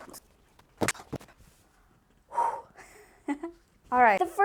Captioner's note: my weird giggle; exaggerated breath